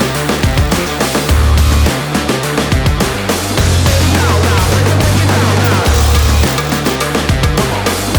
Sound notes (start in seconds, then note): 0.0 welder sparking; 0.0 upbeat rock music continues